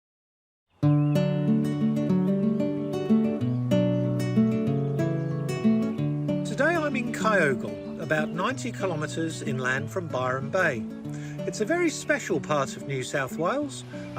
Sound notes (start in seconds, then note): 0.7 gentle music plays; 3.8 birds twitter